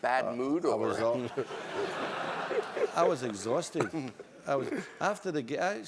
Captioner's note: laugh